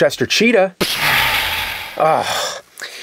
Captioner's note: pshaaa!